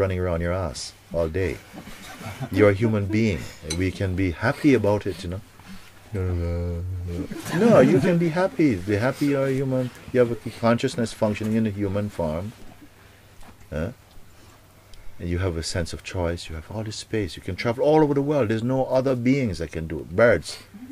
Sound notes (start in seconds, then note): 6.2 Mooji makes crying sound; 7.1 laughter